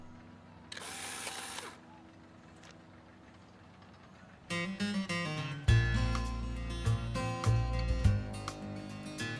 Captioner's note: camera flashing